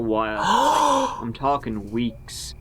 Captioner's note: gasps